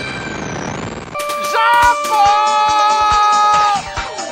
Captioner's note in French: hurlé